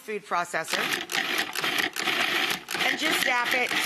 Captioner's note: blender sound